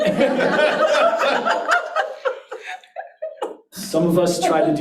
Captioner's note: audience laughs